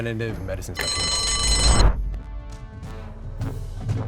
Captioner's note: bell ringing; intense music